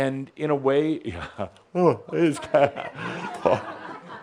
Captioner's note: someone yawns